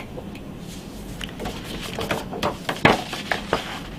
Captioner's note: pages rustling